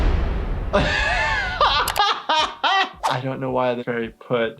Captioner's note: laughing